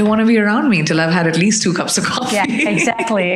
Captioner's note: chuckles